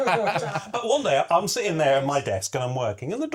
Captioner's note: laughter